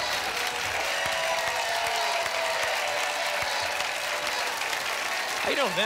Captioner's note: applause and cheering cont